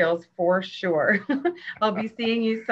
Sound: both chuckle

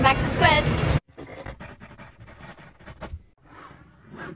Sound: scratching

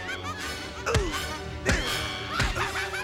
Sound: grunting

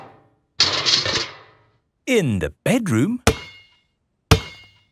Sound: banging

